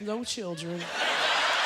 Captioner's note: laughter; applause